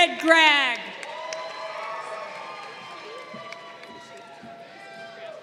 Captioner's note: crowd cheering